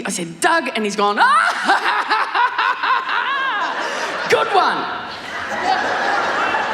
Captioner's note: laughs hysterically